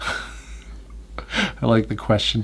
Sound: laughs

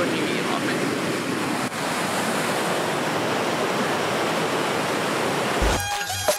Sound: continuous water burbling

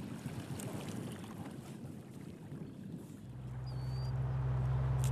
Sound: motor purrs

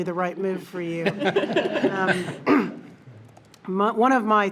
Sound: everybody laughing

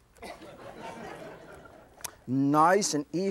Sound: audience chuckles

